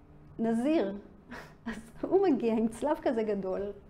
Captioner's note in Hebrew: צוחקת